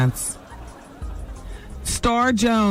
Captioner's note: audience laughing